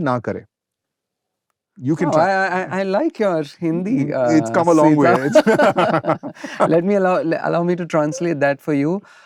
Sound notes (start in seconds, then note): 4.6 laughter